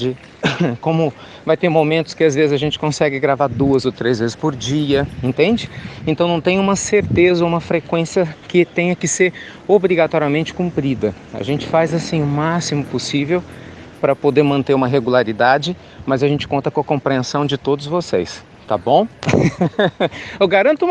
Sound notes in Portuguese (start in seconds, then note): 19.2 Risos